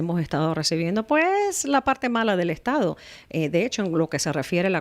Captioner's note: Hablando ingl\s